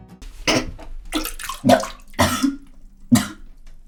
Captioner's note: barfing noises